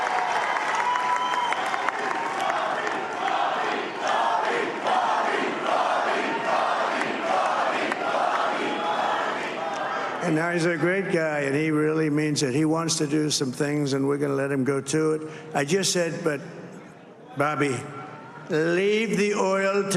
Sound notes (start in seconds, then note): 0.0 cheers and applause; 8.0 crowd chanting